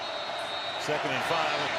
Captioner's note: whistle